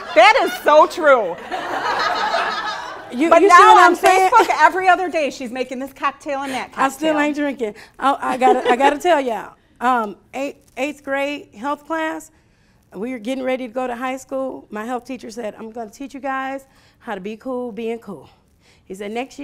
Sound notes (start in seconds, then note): 1.4 laughing